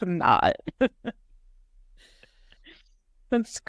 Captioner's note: everybody laughing